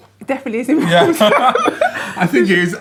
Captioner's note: both laughing loudly